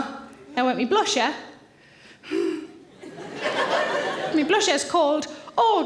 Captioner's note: sighs